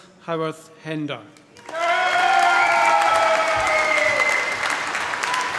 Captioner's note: cheering, applause